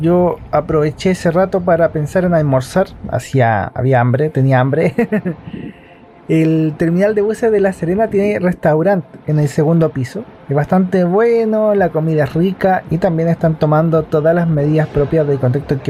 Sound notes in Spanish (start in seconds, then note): 4.8 risas